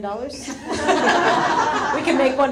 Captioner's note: audience laughs